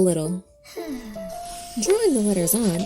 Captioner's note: stick person sighing in relaxation; pencil scratching